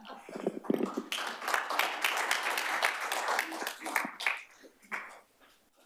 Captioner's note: applause